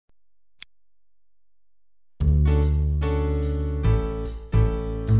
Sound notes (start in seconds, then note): 0.6 single click; 2.2 jazzy music